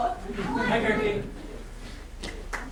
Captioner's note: speaking grammelot